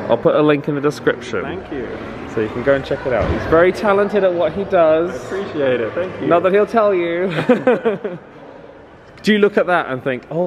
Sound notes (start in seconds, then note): 7.2 laughs